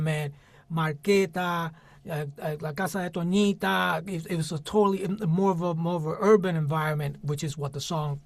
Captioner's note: spanish